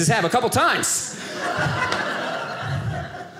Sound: audience laughing

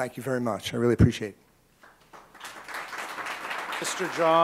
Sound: applause

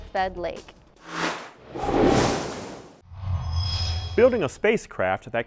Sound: sound Effects

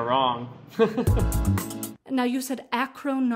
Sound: laughter

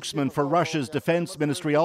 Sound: speaking alternate language

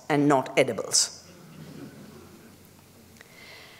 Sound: laughter

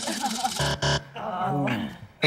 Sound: buzzer

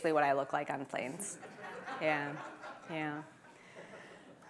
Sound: audience laughs

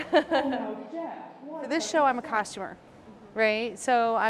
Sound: laughing

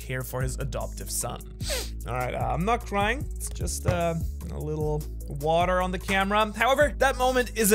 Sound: sniff, and wipe eye

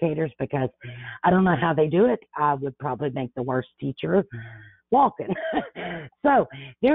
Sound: laughs

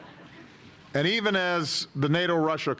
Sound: laughter

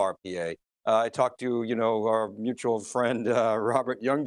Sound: laughing

